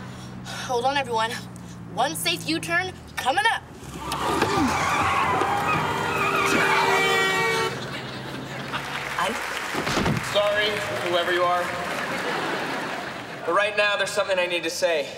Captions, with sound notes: Hold on, everyone. One safe U-turn coming up. [tires squealing, honking] Sorry, whoever you are. But right now there's something I need to say.